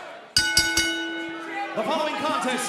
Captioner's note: fans chanting; bell ringing